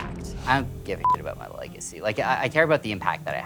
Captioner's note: beep